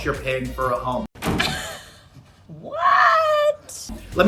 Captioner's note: chuckles